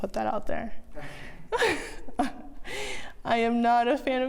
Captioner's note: laughs softly